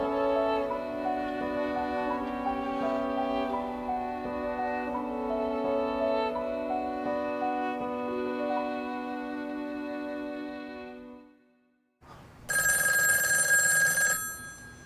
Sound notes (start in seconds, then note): 12.4 phone rings